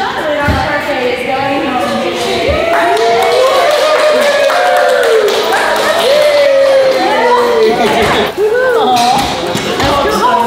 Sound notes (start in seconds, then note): 2.2 group cheers and applauds